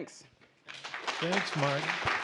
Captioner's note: applause